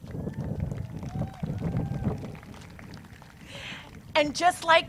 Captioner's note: crowd cheers